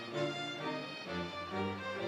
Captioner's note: none